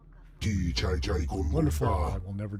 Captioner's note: speaking foreign language